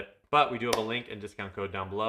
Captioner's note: hands clapping